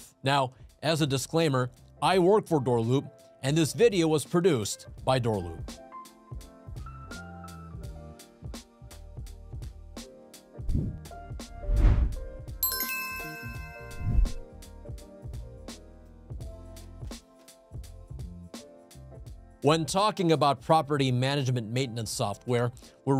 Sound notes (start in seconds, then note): 5.0 upbeat music; 11.6 air whooshes; 11.6 logo whooshes; 12.6 bell chimes; 14.0 air whooshes